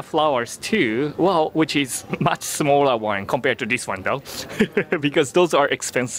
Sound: laughs

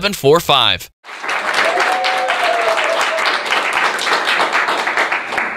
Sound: cheering and applause

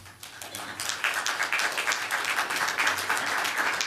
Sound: applause

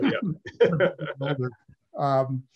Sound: laughter

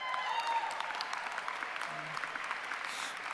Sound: cheering

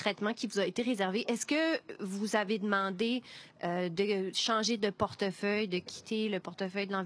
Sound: speaking French

